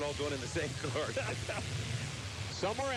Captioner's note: announcers laugh